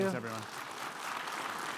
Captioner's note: audience clapping